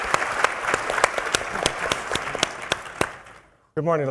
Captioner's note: applause